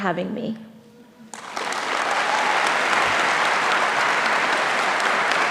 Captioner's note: audience applauding